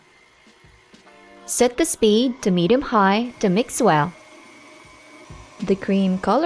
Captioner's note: mixer running